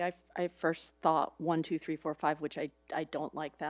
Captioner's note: none